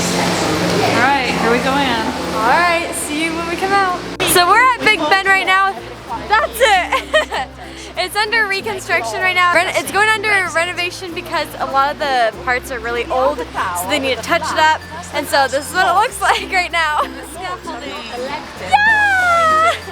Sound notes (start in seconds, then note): 7.2 laughs